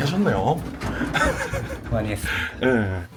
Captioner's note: laughs